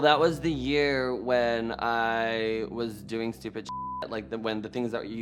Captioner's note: beep